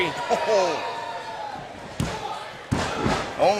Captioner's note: referee counting